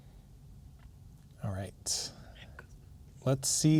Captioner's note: whispers